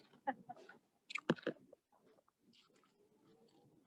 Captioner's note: laughing